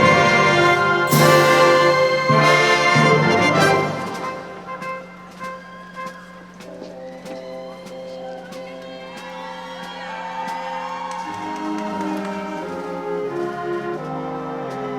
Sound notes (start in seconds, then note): 8.7 audience shouting and cheering; 11.7 orchestral music